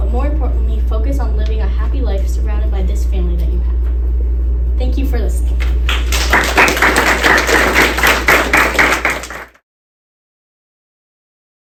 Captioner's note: clapping